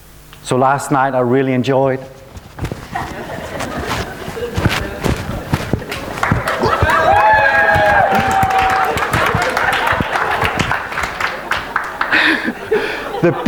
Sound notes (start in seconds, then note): 2.9 dancing, laughing, and applauding